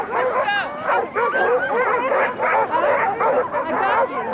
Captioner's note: dogs barking